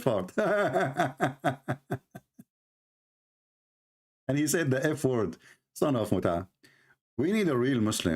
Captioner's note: Ketawa